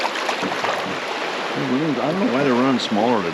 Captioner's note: water flowing; fish splashing